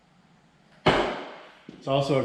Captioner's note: jack bangs